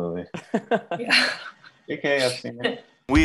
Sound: laughing

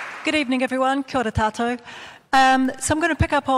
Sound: speaks in foreign language

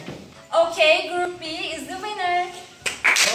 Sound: applause

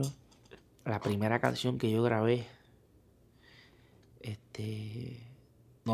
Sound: speaking in foreign language

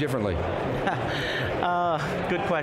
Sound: laughs

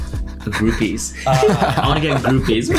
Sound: laughing

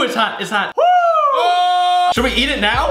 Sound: cheering

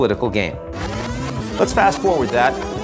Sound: tape whirring

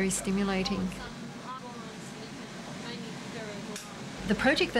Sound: noises in the labratory

